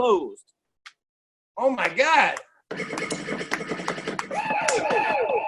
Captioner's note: record scratching